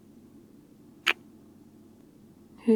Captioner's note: kiss